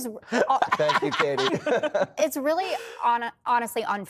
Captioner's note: laughter